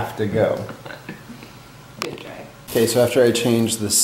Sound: laughs

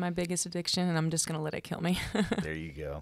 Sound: laughs

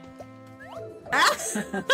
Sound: both laugh

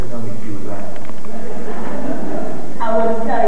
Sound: laughter

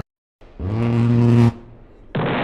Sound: gun sounds

